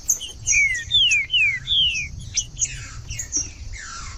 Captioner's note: trinca ferro cantando